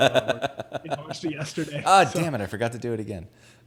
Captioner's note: laughs